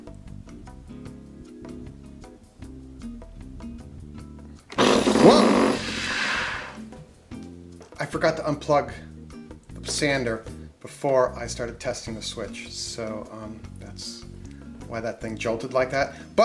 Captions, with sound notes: (mellow jazz music) (sander buzzing) Whoa! I forgot to unplug the sander before I started testing the switch. So, that's why that thing jolted like that.